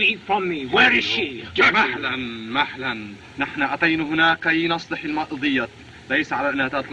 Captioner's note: Hana Speaking Native Language